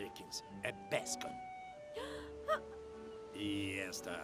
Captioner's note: Ruth laughs